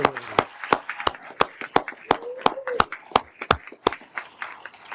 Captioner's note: everyone applauding